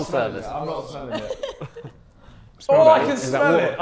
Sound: chuckling

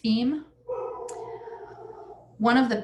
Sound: dog barking

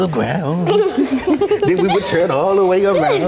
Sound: laughing

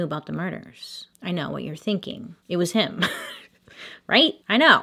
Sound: slight laugh

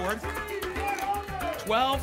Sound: audience shouting numbers

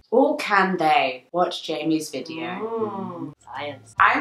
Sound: oohing

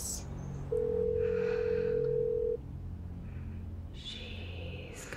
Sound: phone dial tone buzzing

